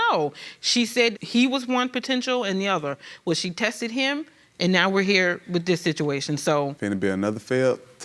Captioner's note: none